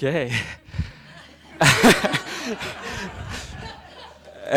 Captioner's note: laughing